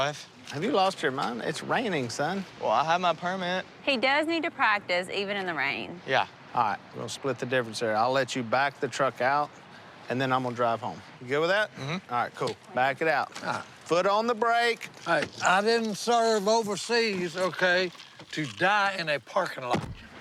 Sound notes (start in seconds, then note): none